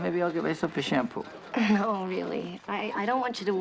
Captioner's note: chuckles